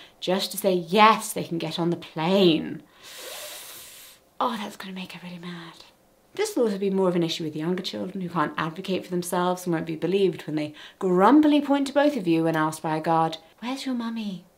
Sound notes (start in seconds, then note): 3.1 sucks teeth